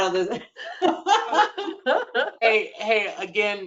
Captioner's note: laughter